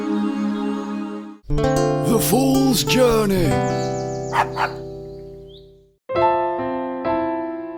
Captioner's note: dog barks